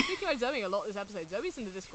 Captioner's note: laughs